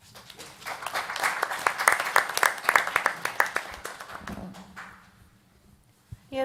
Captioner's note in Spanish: Aplausos